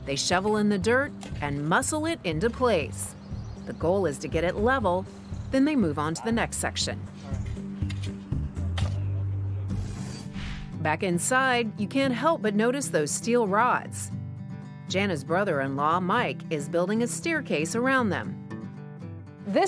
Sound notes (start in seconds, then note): 9.8 shoveling